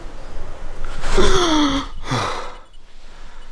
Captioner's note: inhales heavily